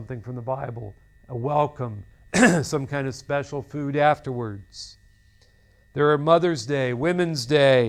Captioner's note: clears throat